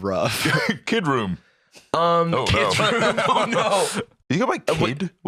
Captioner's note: laughing